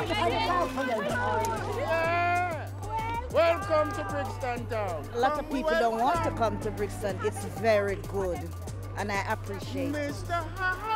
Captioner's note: cheers and Applause